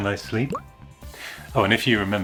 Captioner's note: pop!